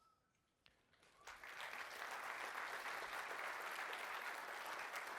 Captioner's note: applause